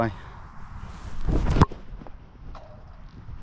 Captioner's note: ball thuds; net ripples